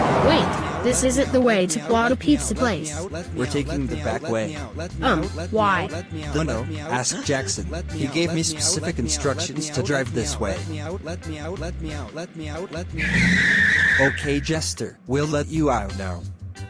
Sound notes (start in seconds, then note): 12.9 car squealing